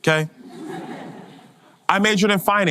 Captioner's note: audience laughter